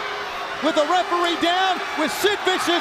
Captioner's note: crowd chatter